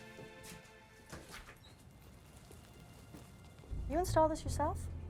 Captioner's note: door opens